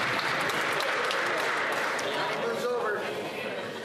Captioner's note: applause